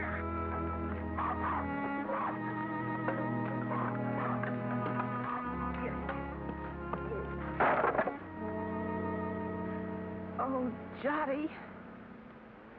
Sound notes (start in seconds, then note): 0.0 dog barks; 0.0 pig squeals; 0.0 somber music; 0.2 dog barks; 7.5 boards clatter